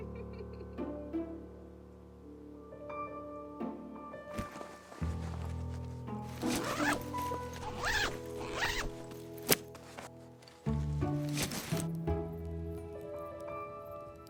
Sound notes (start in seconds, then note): 0.3 gentle orchestral music; 6.2 bag unzipping